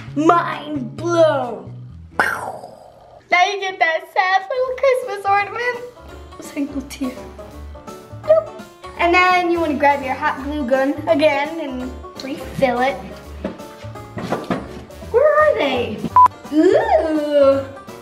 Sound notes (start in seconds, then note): 2.0 mimics explosion; 16.1 beep